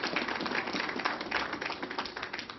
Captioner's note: applause